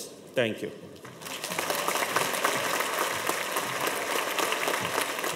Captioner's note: audience applauds